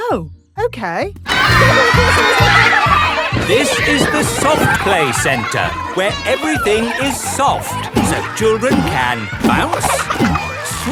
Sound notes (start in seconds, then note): 3.9 loudly over shouting